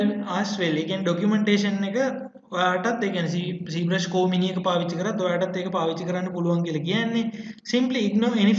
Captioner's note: explaining in Sinhala